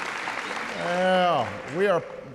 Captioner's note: applause